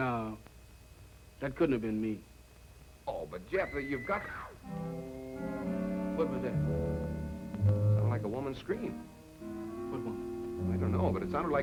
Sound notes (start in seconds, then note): 3.5 distant screaming